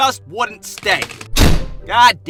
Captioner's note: thud